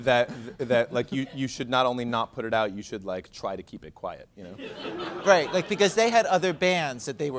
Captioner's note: laughter